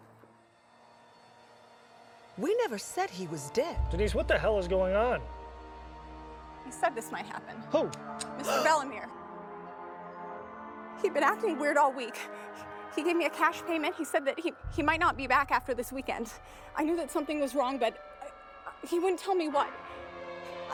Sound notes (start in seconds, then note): 0.3 dramatic music; 8.4 Eleanor gasps